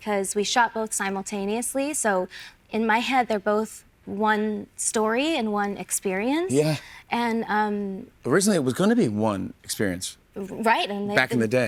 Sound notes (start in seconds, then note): none